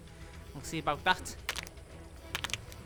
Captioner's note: crack